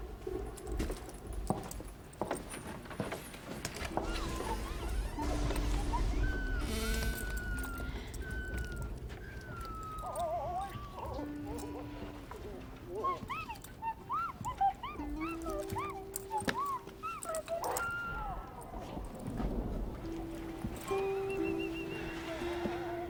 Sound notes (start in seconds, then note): 0.1 footsteps; 6.6 thunder & lightning